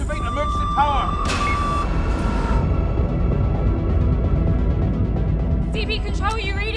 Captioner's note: submersible droning; switch thuds